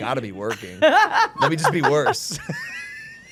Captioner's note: laughing